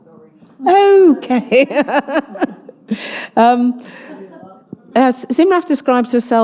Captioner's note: laughs